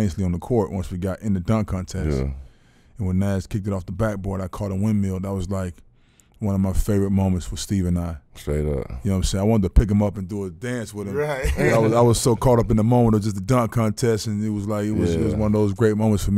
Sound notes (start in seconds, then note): 11.1 laughing